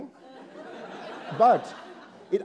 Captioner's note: attendees laughing